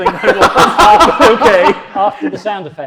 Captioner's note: laughs